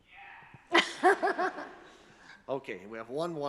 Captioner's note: attendees chuckle